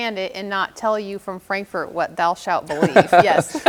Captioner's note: laughs